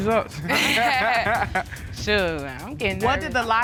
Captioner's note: laughing